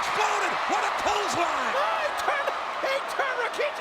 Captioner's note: spectators cheering; Jerry mumbling